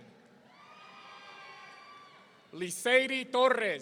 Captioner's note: audience cheering